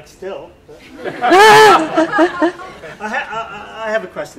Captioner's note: laughing